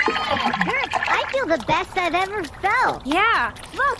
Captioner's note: Gurps splashing, cheering; wet, splashy Gurp footsteps run back and forth